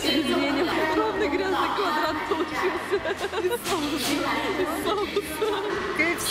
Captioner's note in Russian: смеются